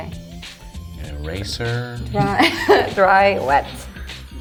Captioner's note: laughs